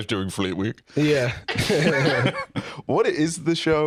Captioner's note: both laugh